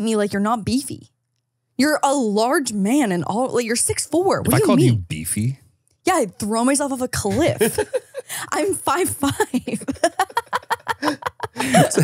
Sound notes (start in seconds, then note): 7.3 laughs